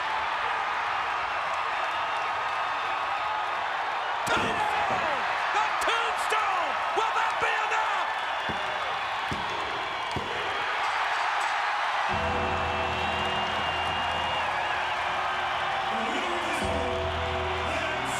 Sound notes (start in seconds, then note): 0.1 crowd cheering continues; 10.9 crowd cheering; 12.1 ominous music; 12.2 bell dings